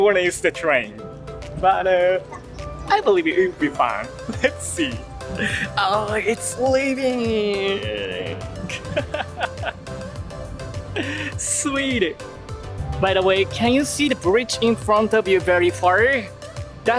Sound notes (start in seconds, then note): 8.2 laughs